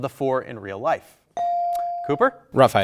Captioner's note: buzzer dings